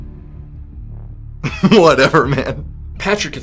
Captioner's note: laughs